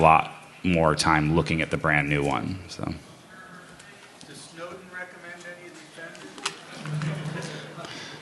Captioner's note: laughter